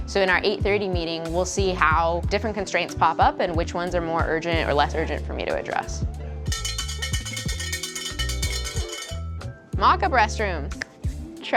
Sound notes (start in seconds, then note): 6.5 cow bell ringing